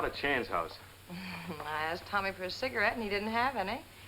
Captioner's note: laughs